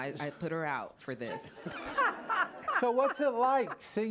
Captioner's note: laughter